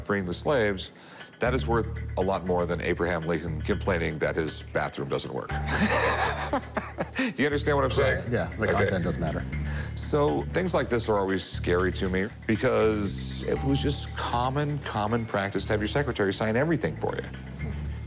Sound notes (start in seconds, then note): 5.6 laughs